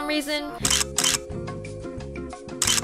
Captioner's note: camera clicks on video